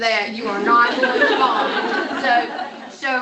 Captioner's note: laughter